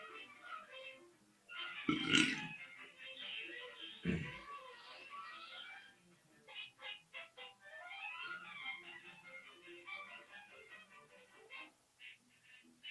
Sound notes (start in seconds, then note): 1.8 loud belch; 4.0 clears throat